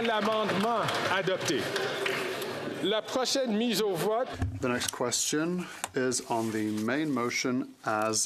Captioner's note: applause